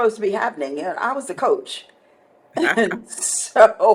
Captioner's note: chuckles